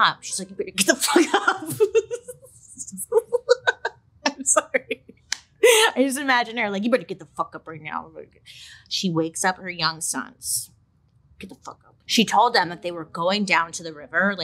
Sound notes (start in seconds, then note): 2.9 laughs